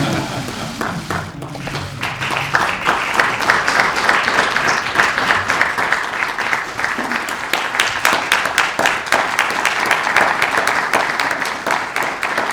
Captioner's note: laughter; applause